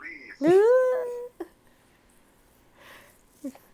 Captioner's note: laughter